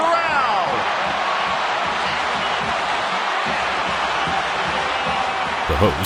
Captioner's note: crowd cheering